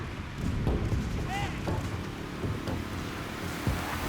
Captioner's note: rain patters, shouting